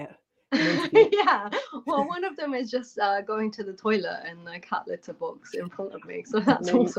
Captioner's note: laughter